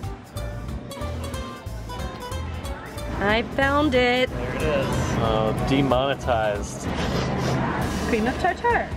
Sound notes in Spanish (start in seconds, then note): 6.9 sonido de oliendo